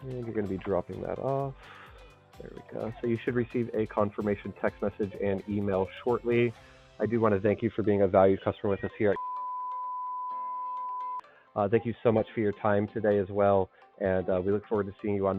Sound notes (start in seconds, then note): 9.1 beep